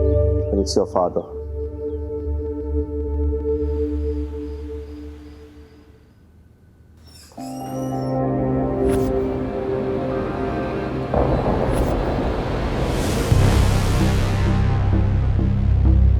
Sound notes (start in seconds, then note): 7.0 door squeaking; 13.4 tense music playing